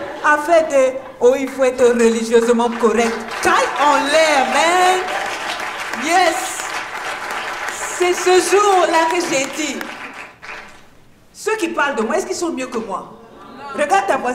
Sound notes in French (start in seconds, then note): 4.7 applaudissements